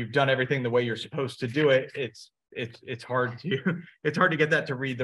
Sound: chuckles

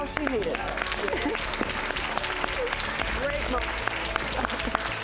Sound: audience applauds

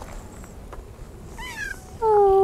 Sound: meows

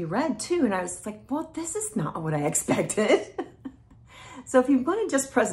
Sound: chuckles

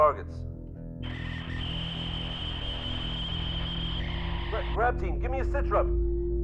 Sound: static

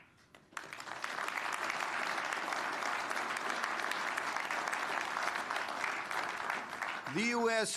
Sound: applause

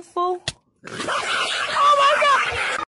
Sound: dog going crazy

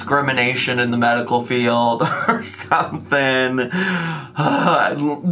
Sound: groans

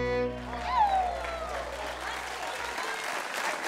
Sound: audience applauds

